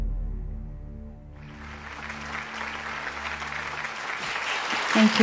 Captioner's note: applause